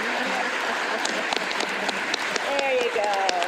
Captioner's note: laughter; applause